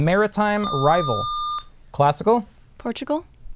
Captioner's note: buzzer